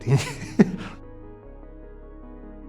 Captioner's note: laughs